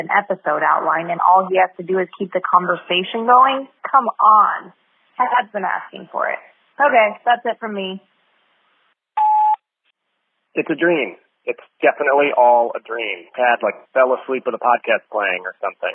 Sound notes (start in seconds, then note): 9.2 sfx: beep, new message; 11.1 phone message